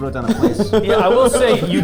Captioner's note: laughing